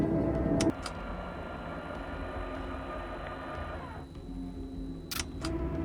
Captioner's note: soft gloomy music continues; camera whirring; button clicks; button clicks